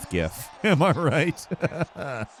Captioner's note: laughs